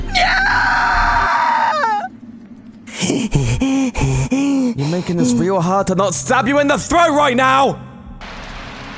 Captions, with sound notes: NGGAHHHHHHHH [HEAVYBREATHING] You're making this real hard TO NOT STAB YOU IN THE THROAT RIGHT NOW!